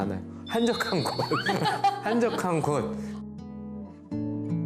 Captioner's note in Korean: ㅎㅎㅎㅎㅎㅎㅎ